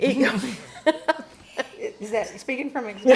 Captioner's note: laughs